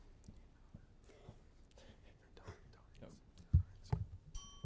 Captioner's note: students whisper; bell dings